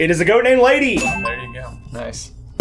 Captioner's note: bell dinging